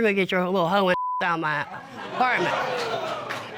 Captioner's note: audience exclaims